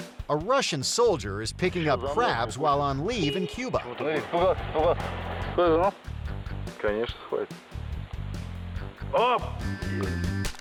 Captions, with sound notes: A Russian soldier is picking up crabs while on leave in Cuba. (man speaking in foreign language)